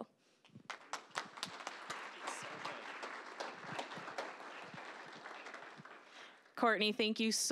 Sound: applause

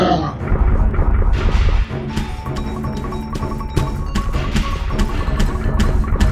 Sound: Puto Monster growling; suspenseful music; footsteps pattering; footsteps pounding

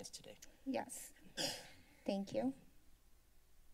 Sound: clears throat; silence

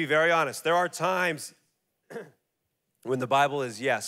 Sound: clears throat

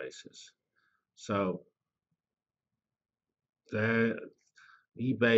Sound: pause

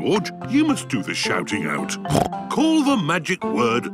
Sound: snorts

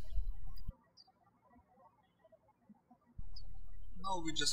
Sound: birds chirping

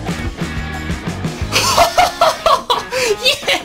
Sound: laughing

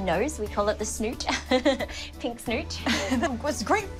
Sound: laughs

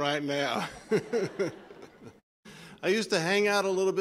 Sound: laughter

